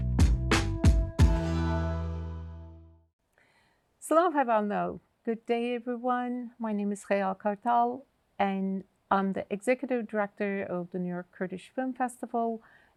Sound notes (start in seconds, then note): 3.4 speaks Kurdish